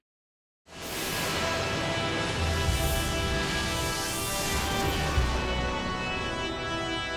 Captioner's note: foreboding music; logo whooshing